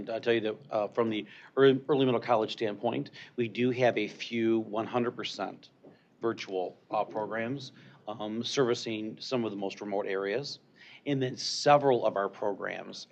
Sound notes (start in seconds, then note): none